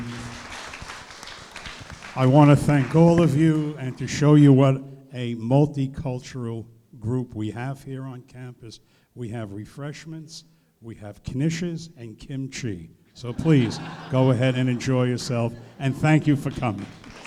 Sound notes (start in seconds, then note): 0.0 applause; 13.2 laughing